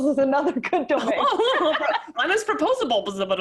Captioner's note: laughs